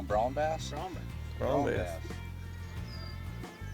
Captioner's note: voiceover